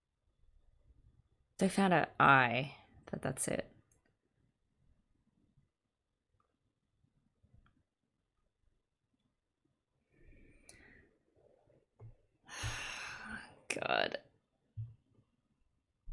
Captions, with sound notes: They found her eye. That's it. [sighs nervously] Oh, god...